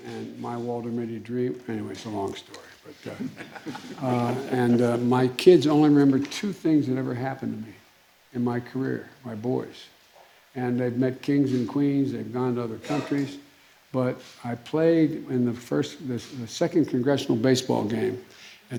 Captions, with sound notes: and my Walter Mitty dream -- anyways, it's a long story, but -- (laughter) -- And my kids only remember two things that ever happened to me in my career -- my boys. And they've met kings and queens, they've gone to other countries. But I played, when the first -- the second congressional baseball game